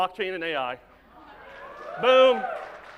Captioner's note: audience claps